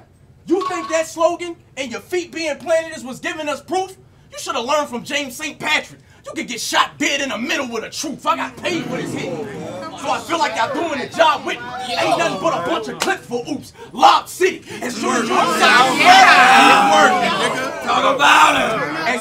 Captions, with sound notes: You think that slogan and your feet being planted is what's giving us proof? You shoulda learned from James St. Patrick. You can get shot dead in the middle of the Truth, I got paid for this hit, so I feel like y'all doing a job with me, (audience hoots) ain't nothin' but a bunch of clips for Ooops, lob city. (audience roars) - Talk about it!